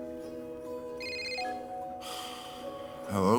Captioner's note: phone beeps; ringing; sighs